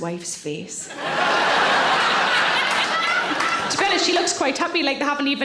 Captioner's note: audience laughing